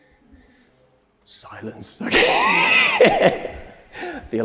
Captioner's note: laughs